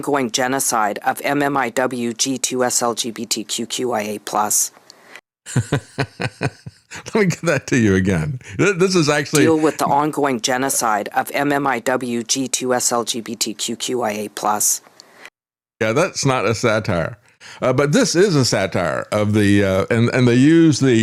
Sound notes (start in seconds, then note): 5.5 laughing